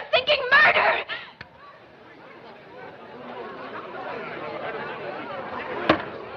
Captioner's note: audience Murmuring